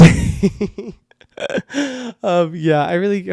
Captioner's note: laughs